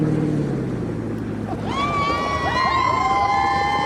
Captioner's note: cheers; laughs